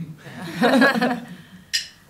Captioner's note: laughter